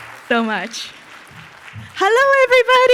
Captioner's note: audience applauds